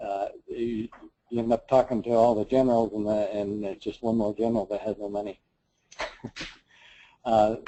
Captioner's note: laugh